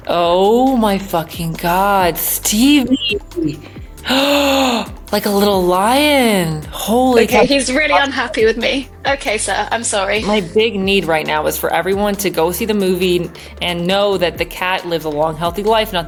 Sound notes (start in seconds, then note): 2.3 gasps